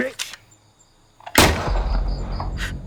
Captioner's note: gunshot